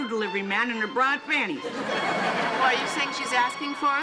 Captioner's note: audience laughing